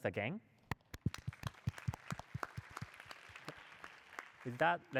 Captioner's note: applause